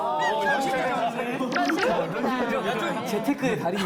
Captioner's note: chattering